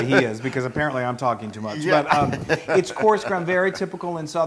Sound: laugh

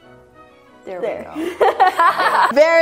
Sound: laughs

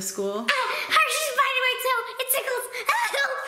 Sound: screams

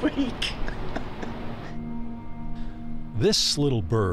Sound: laughing

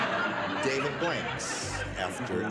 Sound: audience laughs; upbeat music

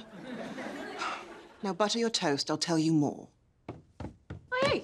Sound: sighs

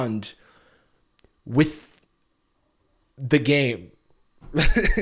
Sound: laughs

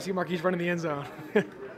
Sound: laughs

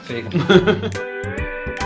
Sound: laughter

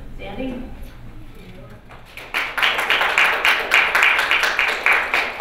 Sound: applause

